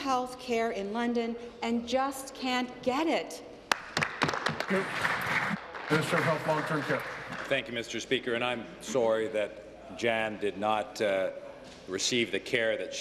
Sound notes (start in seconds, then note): 7.0 applause